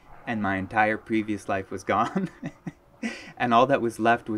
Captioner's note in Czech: smích